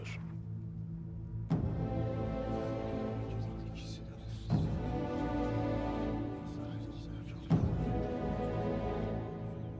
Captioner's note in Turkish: Konuşma sesleri